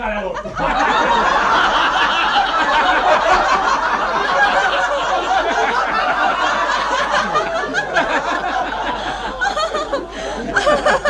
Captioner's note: laughter